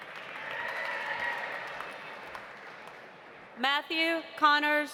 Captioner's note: audience applauding; audience cheering